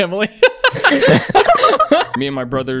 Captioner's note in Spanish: Risas